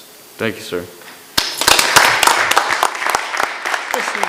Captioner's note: members clapping